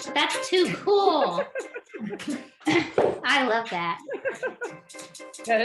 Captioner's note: laughing